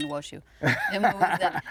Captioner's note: laughing